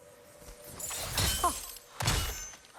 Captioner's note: laugh